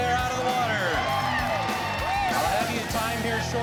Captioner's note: cheering